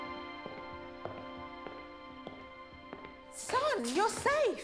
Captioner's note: footsteps plodding